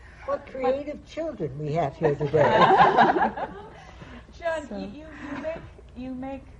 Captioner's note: laughter